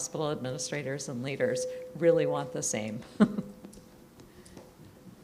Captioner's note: laughs